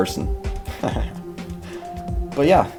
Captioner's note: laughter